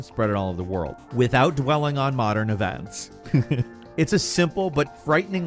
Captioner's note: chuckles